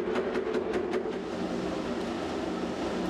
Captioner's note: hissing, Rattling